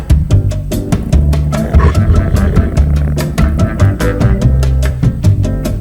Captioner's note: skink purring